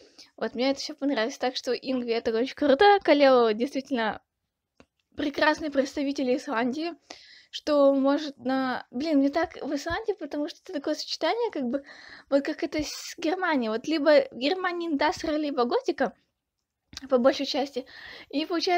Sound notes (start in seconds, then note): 16.9 a little poppy sound